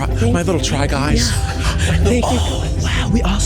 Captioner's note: gasps